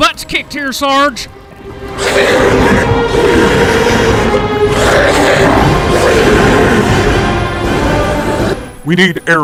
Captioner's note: monster growling and roaring